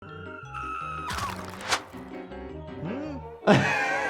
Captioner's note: screaming